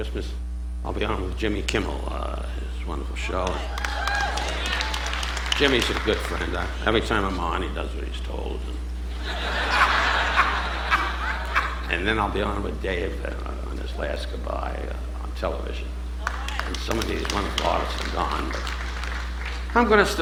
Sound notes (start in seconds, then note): 3.0 audience applauding; 8.2 audience laughing